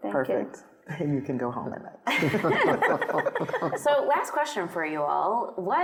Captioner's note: laughing